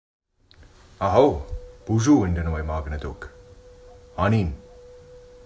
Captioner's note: speaks foreign language